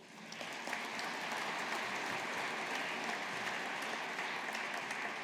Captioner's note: audience applauding